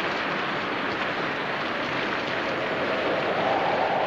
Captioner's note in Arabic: هبوب الرياح